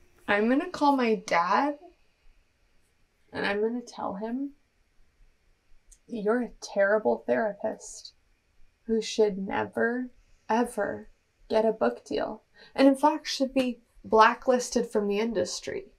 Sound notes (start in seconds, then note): none